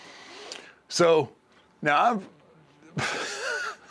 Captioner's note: laugh